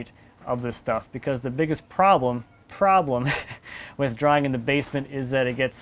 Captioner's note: laughs